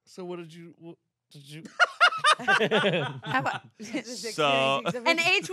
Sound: everyone laughs

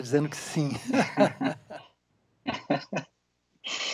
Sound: both laugh

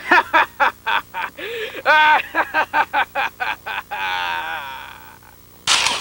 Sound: maniacal laughter

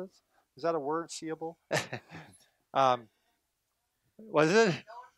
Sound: laughing

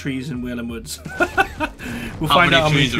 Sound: laughing

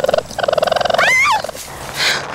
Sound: Anna Screaming

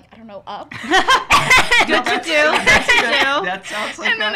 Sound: laughs

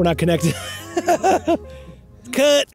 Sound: laughs

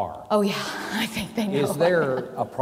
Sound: chuckles

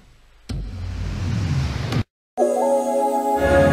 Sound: dramatic sounds; three jingles playing together

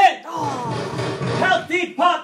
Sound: loud knocking on door

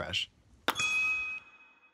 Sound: ding

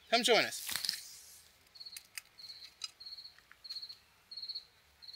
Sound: crickets chirping

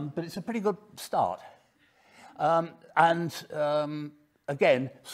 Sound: none

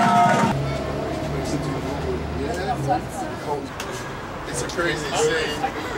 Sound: passing engines whirr, indistinct banter

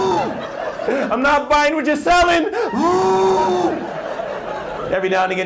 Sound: exhale; exhale

